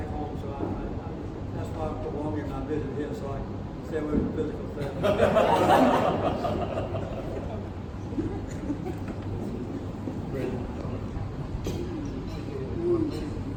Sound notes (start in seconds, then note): 4.8 laughter